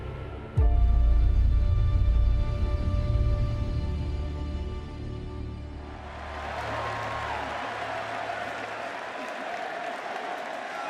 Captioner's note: crowd cheering